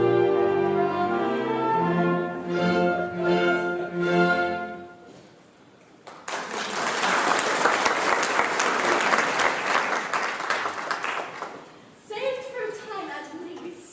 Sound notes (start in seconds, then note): 6.0 applause